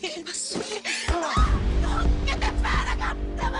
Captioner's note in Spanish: Grito